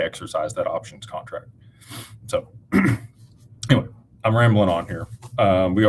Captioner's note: snorts and clears throat